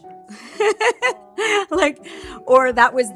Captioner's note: laughter